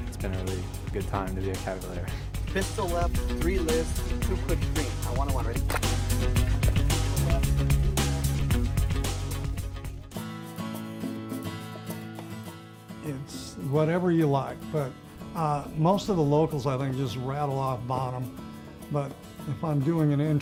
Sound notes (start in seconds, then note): 5.4 everyone clapping; 10.3 inspirational music